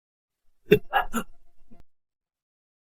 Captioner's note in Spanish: Suspiro